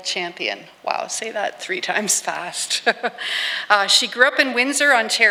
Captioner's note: laughs